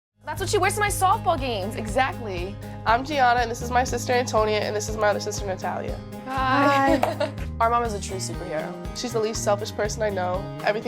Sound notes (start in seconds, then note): 6.5 laughs